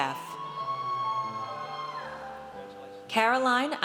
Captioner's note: audience cheers